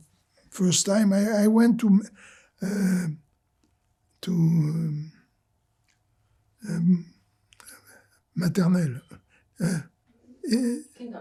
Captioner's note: pauses 6 seconds